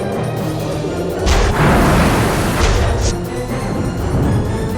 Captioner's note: bombs exploding